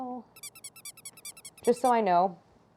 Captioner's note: squeaking sound